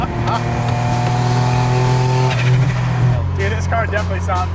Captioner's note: laughing; car engine roaring